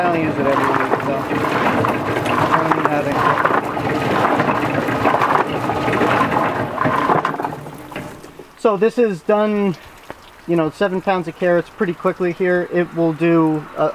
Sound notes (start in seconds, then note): 7.4 root washer stops; 8.9 speaking normally